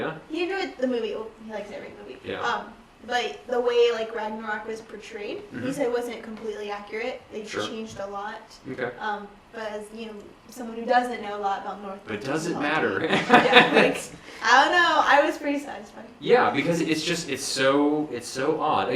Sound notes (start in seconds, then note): 12.9 laugh